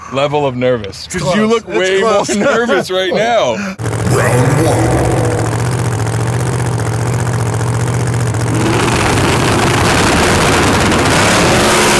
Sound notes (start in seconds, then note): 3.7 engines fluttering; 9.2 engines crackle and roar; 11.8 cars thundering